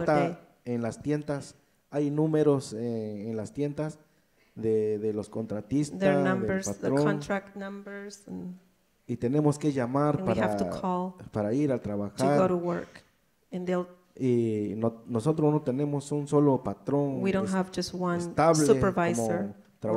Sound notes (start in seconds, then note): 0.3 speaks in foreign language; 13.8 speaks in foreign language